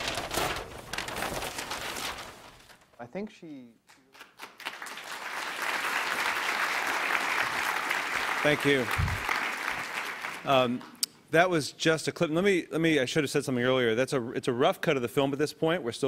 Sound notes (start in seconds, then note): 5.6 applause